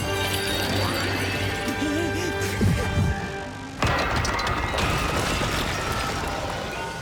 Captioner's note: Sounds of Emilia’s attack